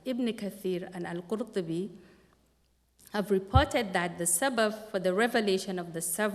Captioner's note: non-english speech